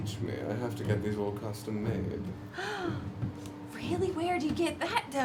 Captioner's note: gasps